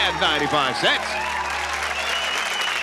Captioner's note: cheering